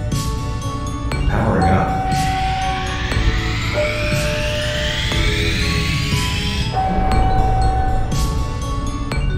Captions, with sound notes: Powering up. *Stabilisation ring powering up sound* *Stabilisation ring powers up*